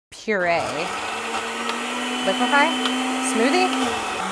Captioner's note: blender whirring